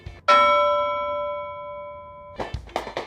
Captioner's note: bell dings; claps